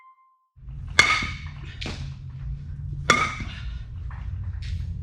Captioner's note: balls hitting